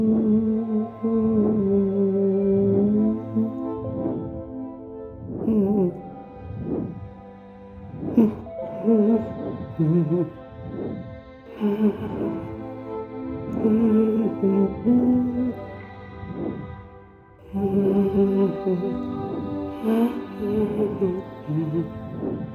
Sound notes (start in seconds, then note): 0.1 female humming and solemn orchestral music continues; 5.0 electronic warbling continues; 17.5 female humming and solemn orchestral music continues